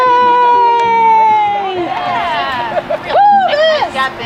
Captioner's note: group cheering